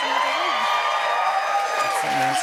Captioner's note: cheers and applause